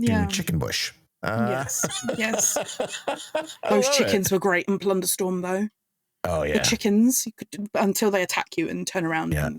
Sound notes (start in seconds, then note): 3.4 laughing